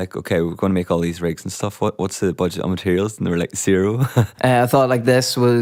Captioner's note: laughs